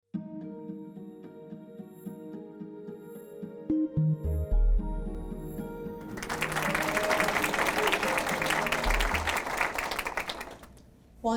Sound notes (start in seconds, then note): 1.6 calm music; 6.0 audience applauds